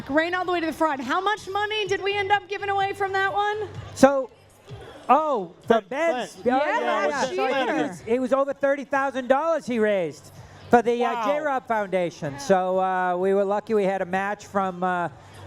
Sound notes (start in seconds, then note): none